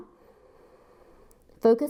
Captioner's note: inhales